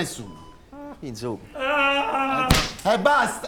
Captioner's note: man moans loudly